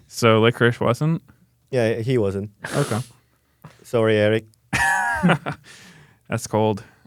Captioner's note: laughs